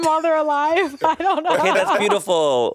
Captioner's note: Monét and Courtney laughing